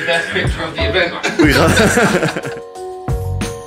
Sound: laughs; all laugh

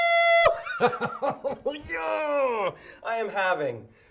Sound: chuckles

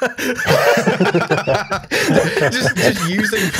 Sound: laughter

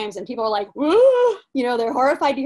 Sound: gasping

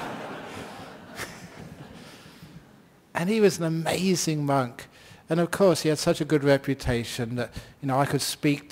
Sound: laughter

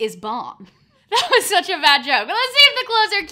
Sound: laugh

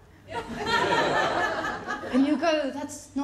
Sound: laughter

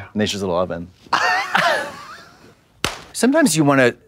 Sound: Trixie laughs and slaps

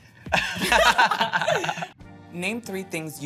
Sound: laugh

